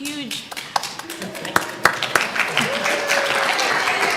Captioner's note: audience applause